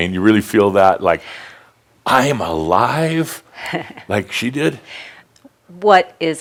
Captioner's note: she chuckles